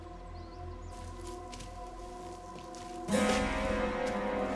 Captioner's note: feet shuffling; dramatic music